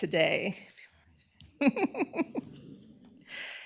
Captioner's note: laughter